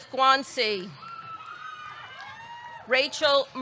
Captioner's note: audience cheering; audience clapping